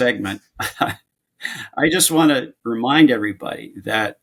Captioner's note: chuckles